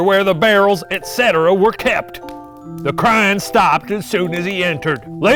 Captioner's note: none